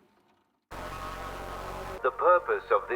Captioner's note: Static